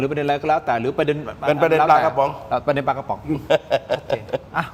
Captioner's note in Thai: เสียงหัวเราะ